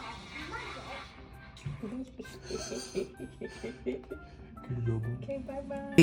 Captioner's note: giggling